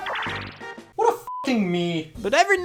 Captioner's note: beeps